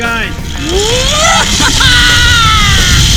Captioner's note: screams and laughs